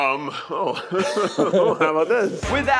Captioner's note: Keith and Eugene laughing